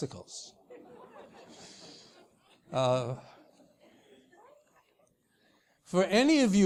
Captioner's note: laugh